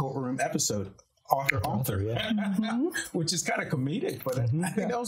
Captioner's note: laughing